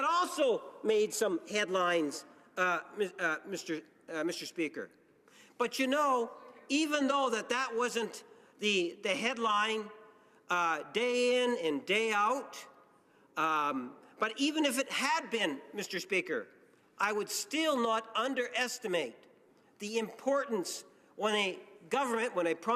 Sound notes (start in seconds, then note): none